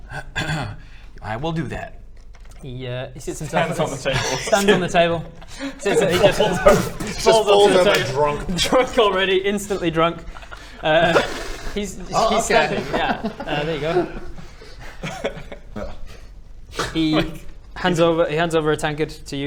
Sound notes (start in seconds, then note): 6.8 boomf